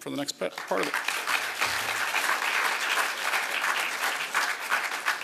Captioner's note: applause